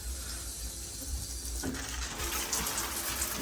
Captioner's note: sounds of water gushes from the tap